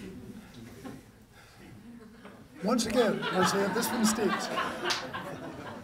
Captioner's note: laughter